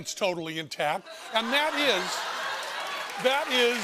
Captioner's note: laughter